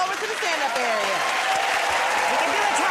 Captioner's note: cheers and applause